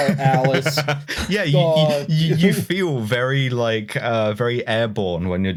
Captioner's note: laughs